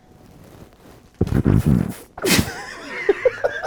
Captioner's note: loud rumble; people laughing